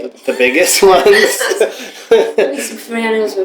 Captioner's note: laughter